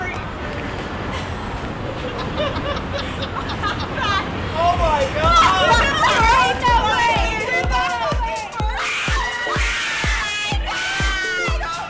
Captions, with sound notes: (laughing) - Oh my god, oh my god!